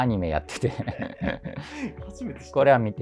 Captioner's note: laughing